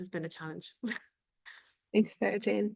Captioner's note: laughs